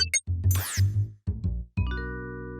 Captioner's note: beeping